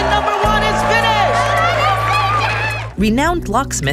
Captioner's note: audience cheering